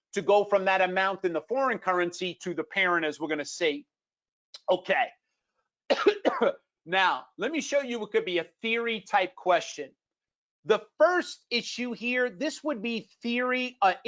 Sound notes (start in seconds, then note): 5.9 coughs